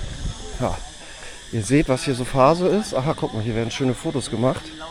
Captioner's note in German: schnauben